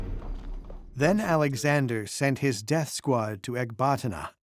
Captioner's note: suspenseful music stops; in German